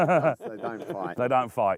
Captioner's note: laughter